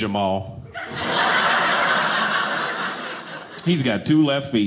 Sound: audience laughing

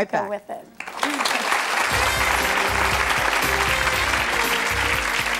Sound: audience applauding

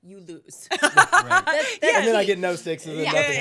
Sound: laughing

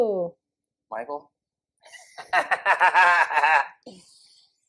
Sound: laughter

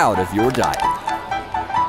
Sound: crunch

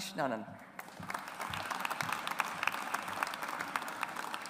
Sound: audience applauds

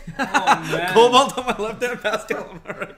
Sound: laughing

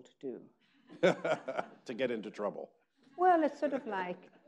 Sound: laughs

